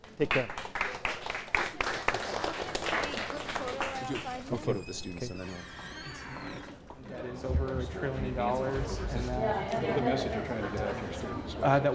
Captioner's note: applause